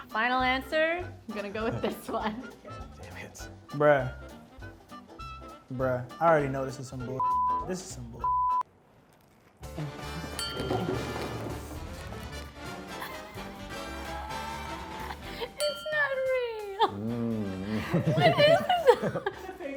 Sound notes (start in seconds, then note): 7.2 beep; 10.3 upbeat lively music